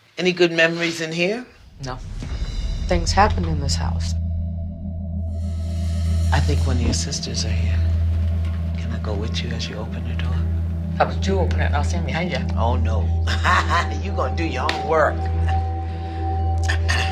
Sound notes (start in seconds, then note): 13.2 chuckles; 13.5 breathes deeply